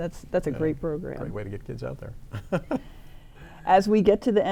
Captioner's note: laughs